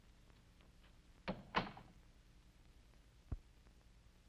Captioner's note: door closes